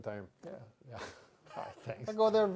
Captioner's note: laughing